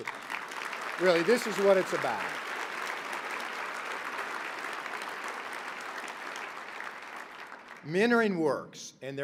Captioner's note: applause